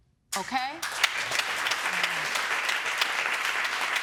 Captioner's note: audience applauding